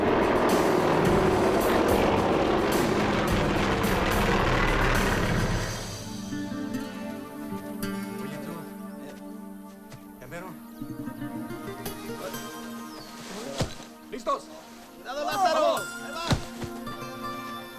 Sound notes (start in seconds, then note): 6.2 slow guitar music; 8.5 men speaking in foreign language